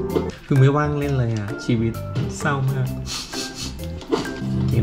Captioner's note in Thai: กระซิก ๆ